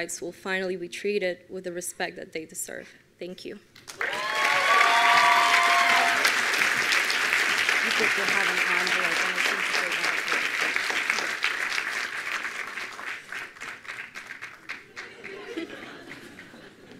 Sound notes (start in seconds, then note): 4.4 attendees applauding